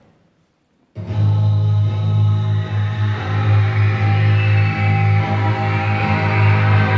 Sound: crowd screaming

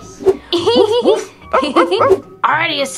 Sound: laughing; dog barking

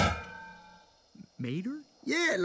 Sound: clang; lightning

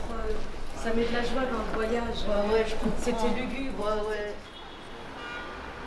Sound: passers-by chattering

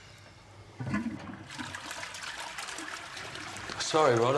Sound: toilet flushes

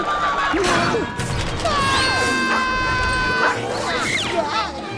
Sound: screaming

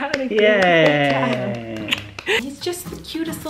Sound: man cheering

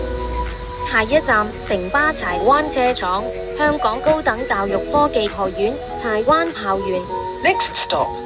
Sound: Cantonese

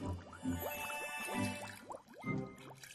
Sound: tinkling, bubbling

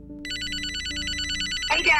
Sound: phone rings

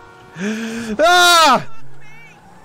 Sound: screams

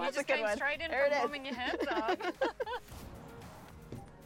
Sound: laughter

